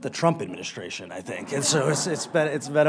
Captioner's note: laughter